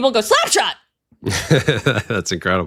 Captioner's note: laughing